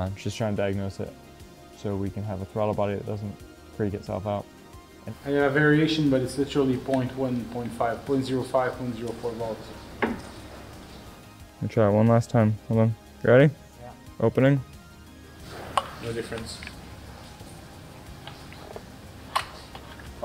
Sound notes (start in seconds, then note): 15.5 rubber popping